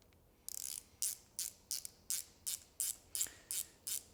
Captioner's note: wrench ratcheting